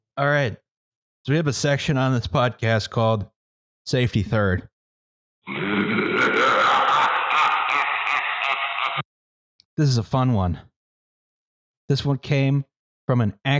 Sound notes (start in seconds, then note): 5.4 monstrous laughter